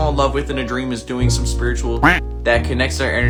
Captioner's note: quacking